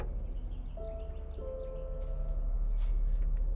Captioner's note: bird chirp